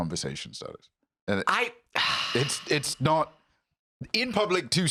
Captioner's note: sighs